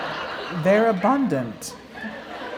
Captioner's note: laughter